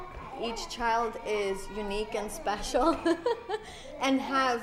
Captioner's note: laughs